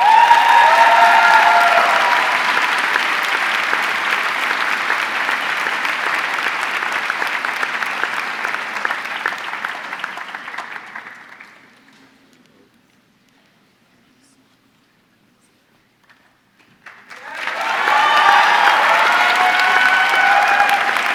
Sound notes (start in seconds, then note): 0.2 audience cheering; 5.5 audience clapping; 16.5 audience clapping